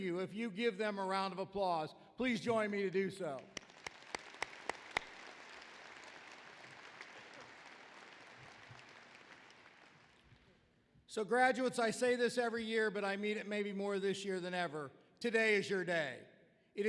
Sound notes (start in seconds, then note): 3.5 applause